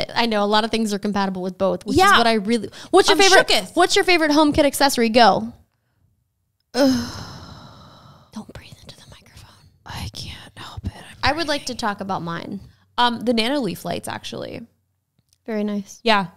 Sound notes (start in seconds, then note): 6.8 exhales; 10.2 whispers